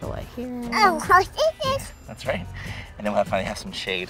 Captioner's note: chatters